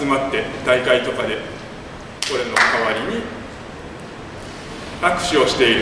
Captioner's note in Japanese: 拍手